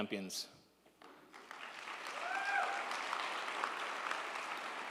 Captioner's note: crowd cheering